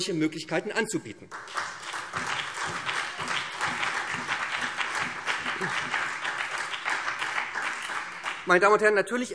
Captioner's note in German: Beifall SPD und BÜNDNIS 90/DIE GRÜNEN